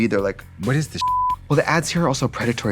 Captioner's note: beeping